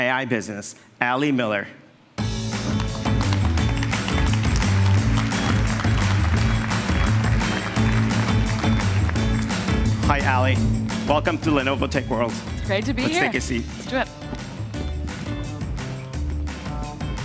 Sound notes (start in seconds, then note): 3.8 applause